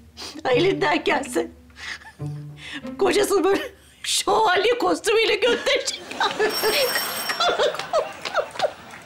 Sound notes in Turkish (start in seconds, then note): 6.4 Kapı zili sesi